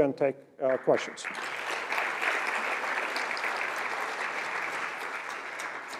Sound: applause

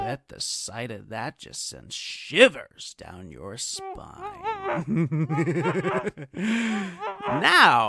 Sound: muffled noises, giggles

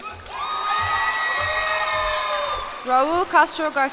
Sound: cheers and applause

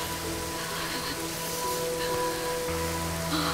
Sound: shivering

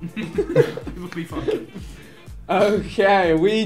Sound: group laughing

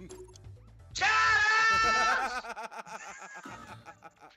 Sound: laugh

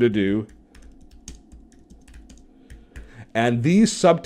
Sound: keyboard typing

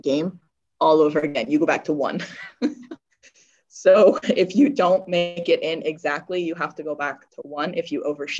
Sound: chuckles

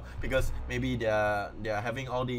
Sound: none

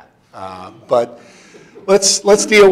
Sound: audience chuckling

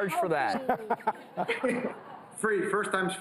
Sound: audience laughs

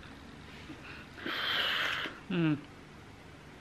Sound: exhales

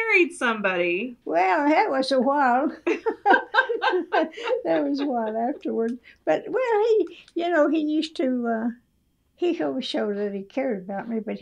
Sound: laughter

